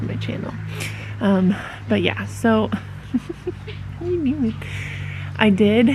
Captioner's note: giggling